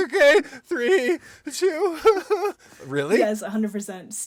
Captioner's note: pretend crying